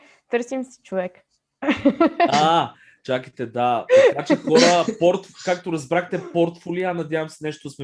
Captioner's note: laugh